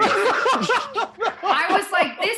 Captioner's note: laughter